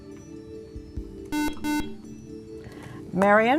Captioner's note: beeping